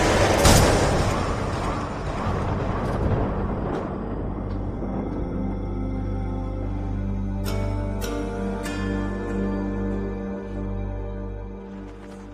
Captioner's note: gun shot